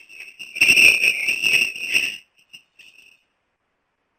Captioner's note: screeching feedback